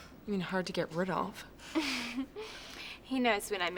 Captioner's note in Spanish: risas